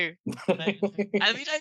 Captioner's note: laughs